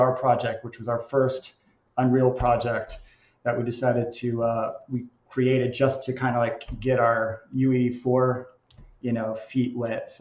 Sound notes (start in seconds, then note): none